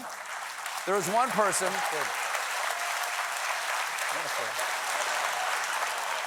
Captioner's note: applause